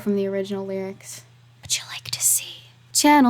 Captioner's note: whispered